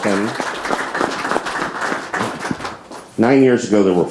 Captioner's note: audience applauds